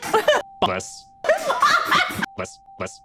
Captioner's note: sneeze-like laugh; sneeze-like laugh x4